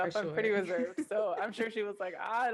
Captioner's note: laughs